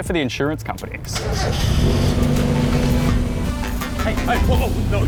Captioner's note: engine starts, growls